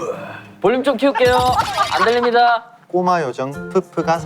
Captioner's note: laughing out loud